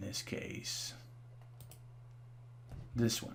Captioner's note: mouse clicking